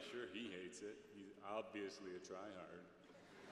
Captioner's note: laughter